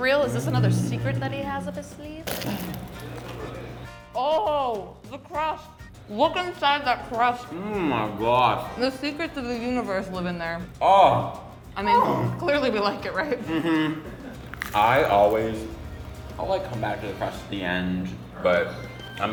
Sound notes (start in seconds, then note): 2.2 pizza crunches; 14.4 pizza crunches